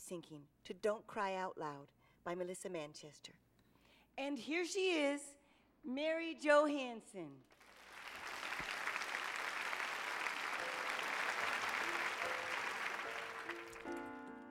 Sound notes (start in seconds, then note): 7.5 applause; 9.9 piano music playing